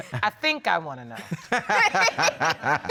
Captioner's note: all laughing